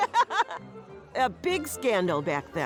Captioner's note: joyful chortle